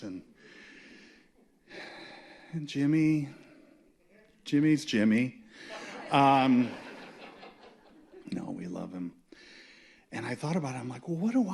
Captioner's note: laughter